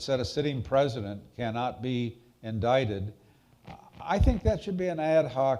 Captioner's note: none